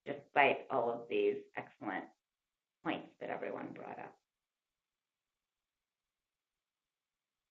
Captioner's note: long pause